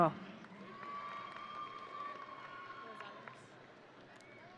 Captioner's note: audience cheering